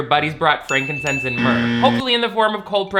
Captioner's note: buzz